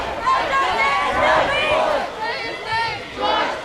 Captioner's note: crowd